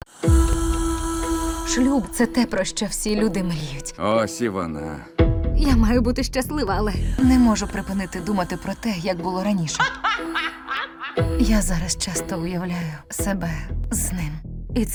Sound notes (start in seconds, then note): 0.1 sultry music playing; 9.6 laughing